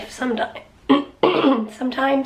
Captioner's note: clears throat